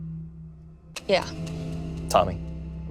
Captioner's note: bell chiming